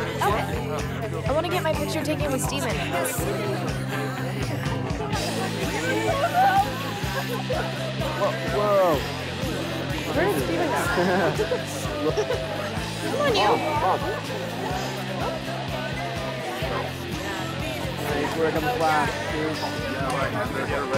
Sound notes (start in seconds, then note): 11.2 people laughing; 20.7 people chattering